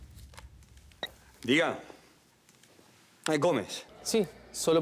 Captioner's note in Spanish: Suena el teléfono